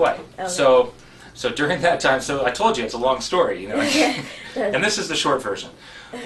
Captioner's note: laugh